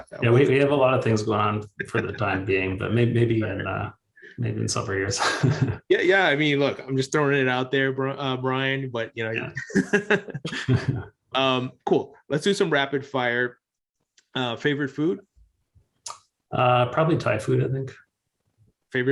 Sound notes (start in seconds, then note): 1.8 laughs; 5.1 chuckles; 9.4 both laughing